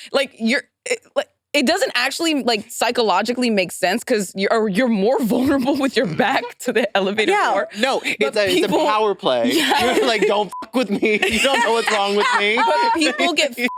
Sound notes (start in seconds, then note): 10.5 beep